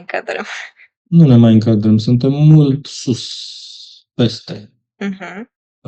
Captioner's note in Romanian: voce dreasă